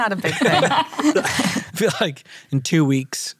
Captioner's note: all laugh